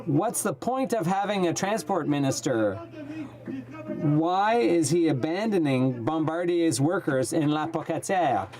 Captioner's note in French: voix de l'interprte